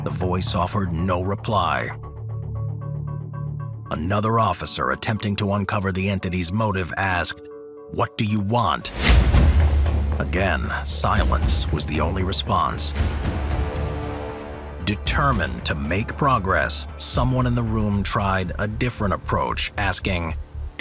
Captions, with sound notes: The voice offered no reply. Another officer, attempting to uncover the entity's motive, asked, "What do you want?" (image crashes) Again, silence was the only response. (dramatic music) Determined to make progress, someone in the room tried a different approach, asking,